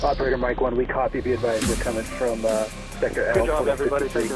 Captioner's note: radio chatter